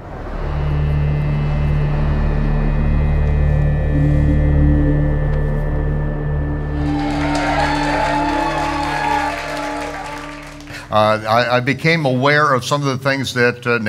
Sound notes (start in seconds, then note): 0.1 intense music; 6.7 audience applauding